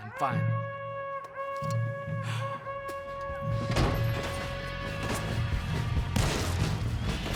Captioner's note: an alarm sound through the camp